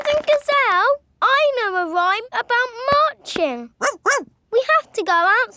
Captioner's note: laughing and clapping; barks